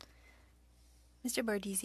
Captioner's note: speaking French